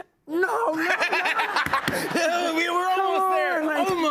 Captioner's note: laughter